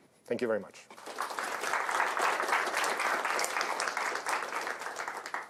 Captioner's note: applause